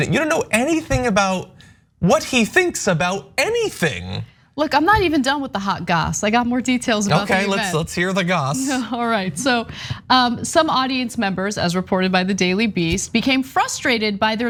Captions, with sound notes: You don't know anything about what he thinks about anything. >> Look, I'm not even done with the hot gas. I got more details. >> Okay, let's start to hear the gossip. [LAUGH] All right, so, some audience members as reported by the Daily Beast, became frustrated